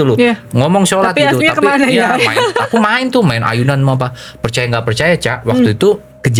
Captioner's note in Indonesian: tertawa